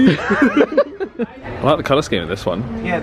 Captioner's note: laughs